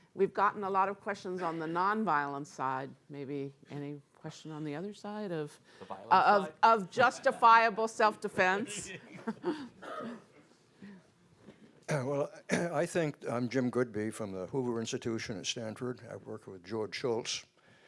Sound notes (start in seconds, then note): 8.7 panel laughing